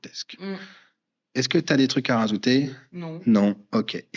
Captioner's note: breath